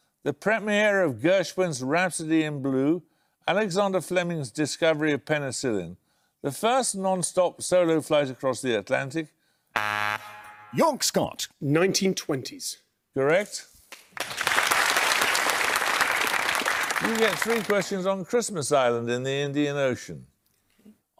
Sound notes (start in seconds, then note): 9.7 buzzer; 13.9 applause